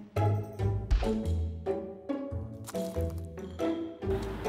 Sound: friendly music; dinosaur foot stomps

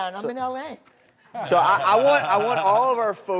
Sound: crowd laughs

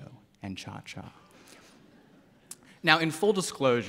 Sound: laughter

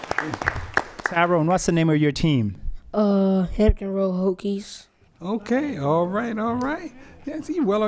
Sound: applause

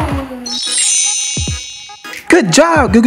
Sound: magic wand

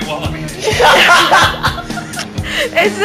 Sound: laughter

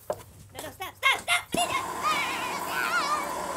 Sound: distant screams

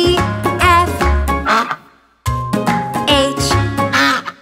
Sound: duck quacks; duck quacks

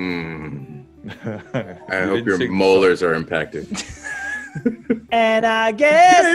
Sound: laugh

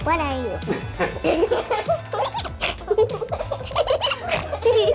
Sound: laughing

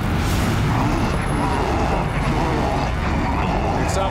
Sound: grunting

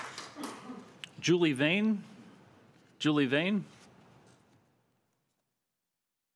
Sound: applause

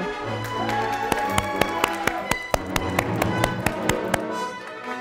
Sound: audience applauding

